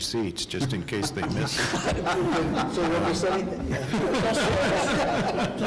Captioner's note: laughing; mixed, amused chatter